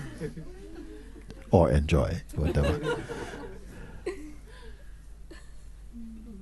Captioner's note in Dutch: gelach